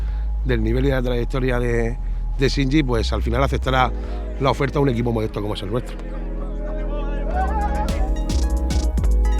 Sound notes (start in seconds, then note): 5.6 players cheering and laughing